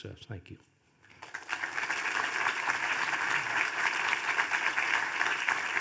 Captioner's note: audience applauding